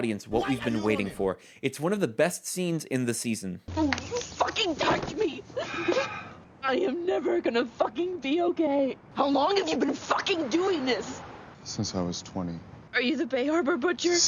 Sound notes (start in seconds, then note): 5.3 Deb crying